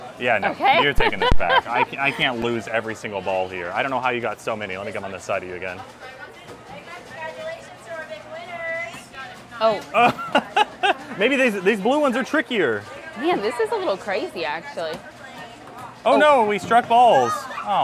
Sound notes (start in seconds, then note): 0.5 laughing; 9.9 laughing